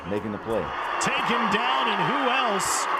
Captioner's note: cheering